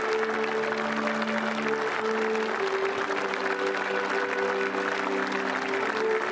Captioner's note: applause